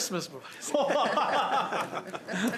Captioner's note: laughter